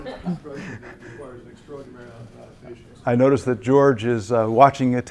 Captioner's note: laugh